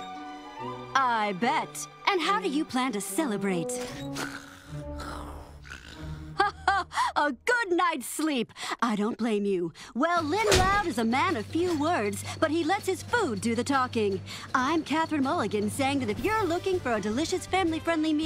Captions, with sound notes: I bet. And how do you plan to celebrate. [laughing] A good night's sleep. I don't blame you. Well Lynn Loud is a man of few words, but he lets his food do the talking. I'm Catherine Mulligan saying that If you're looking for a delicious, family friendly meal,